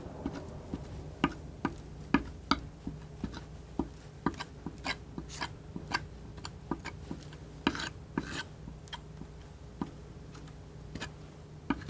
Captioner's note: scratching